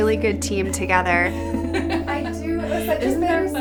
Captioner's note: laughs